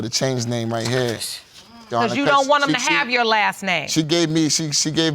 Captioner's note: scoffs